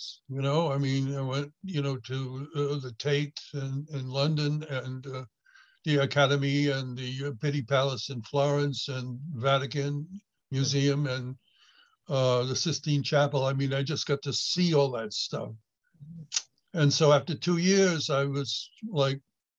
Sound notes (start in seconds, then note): none